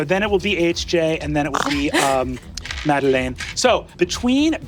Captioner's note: Murph snort-laughs